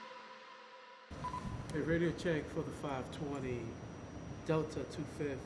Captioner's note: radio beeping